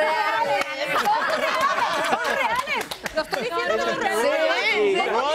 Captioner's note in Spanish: risas